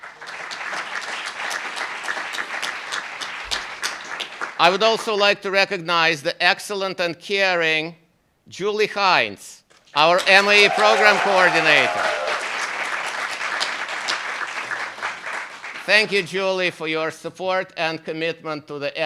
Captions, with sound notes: (applauds) I would also like to recognize the excellent and caring Julie Heintz, our MAE program coordinator. (cheers) Thank you, Julie, for your support and commitment